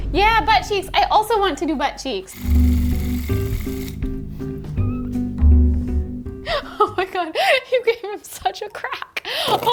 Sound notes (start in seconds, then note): 2.3 laughing; 2.4 device clicking